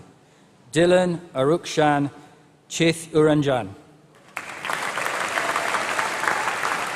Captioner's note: applause